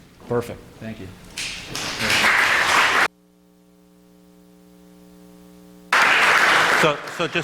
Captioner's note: applause